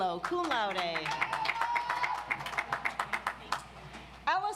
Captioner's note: audience applauds